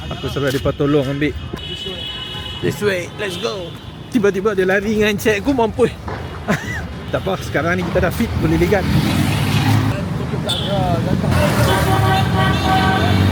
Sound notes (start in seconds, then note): 6.4 laugh; 10.1 speaking Arabic